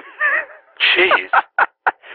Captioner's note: laughter